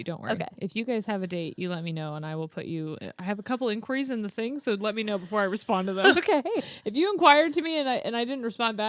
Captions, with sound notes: Don't worry. - Okay. - If you guys have a date, you let me know and I will put you... I have a couple inquiries in the thing. So let me know before I respond to them. - Okay (laughs). - If you inquire to me and I didn't respond back,